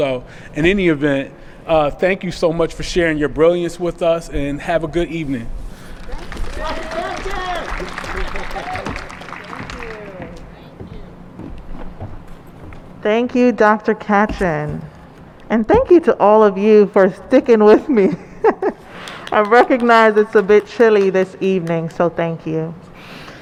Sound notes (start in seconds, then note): 5.9 applause; 17.6 laughs